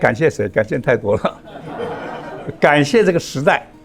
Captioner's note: laughs